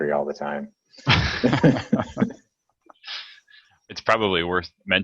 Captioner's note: laughing